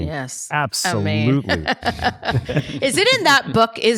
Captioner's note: laughs